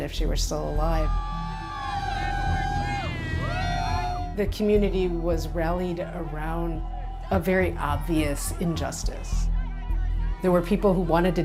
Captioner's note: cheering